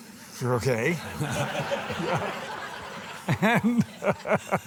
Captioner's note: audience laughing